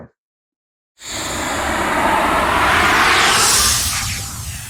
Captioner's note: graphic whirring